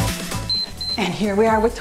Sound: timer beeps

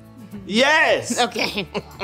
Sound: laughs

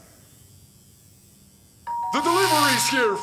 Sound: door bell rings

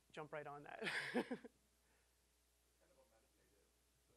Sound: laughing

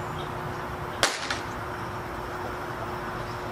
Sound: capacitor Pop

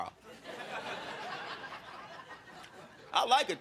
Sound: crowd laughing

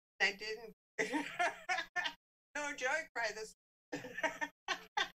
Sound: laughs

